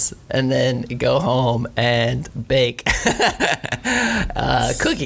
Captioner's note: laughs